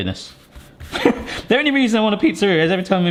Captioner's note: chuckles